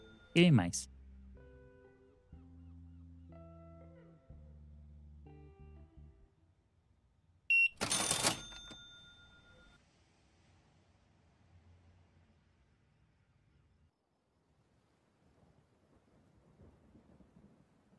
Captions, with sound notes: Giddy mice. (soft music) (beeping) (soft music)